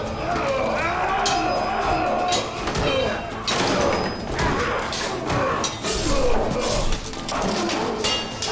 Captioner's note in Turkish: Dövüş sesleri